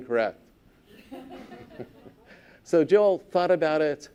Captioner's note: laughter